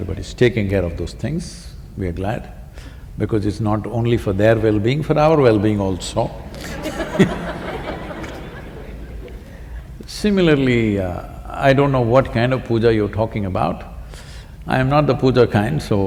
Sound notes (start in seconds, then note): 6.3 laughter